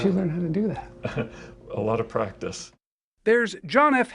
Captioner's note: laughs